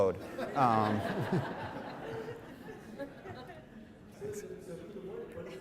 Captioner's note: audience laughing